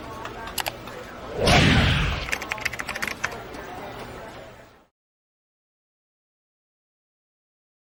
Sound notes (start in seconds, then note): 0.1 mouse clicking; 2.2 keyboard typing